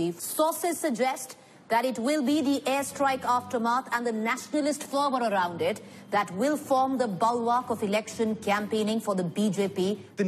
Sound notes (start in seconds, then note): none